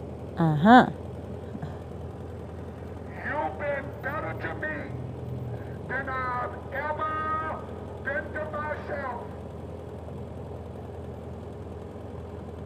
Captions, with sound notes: Ah-ha! [on a megaphone] You've been better to me than I've ever been to myself!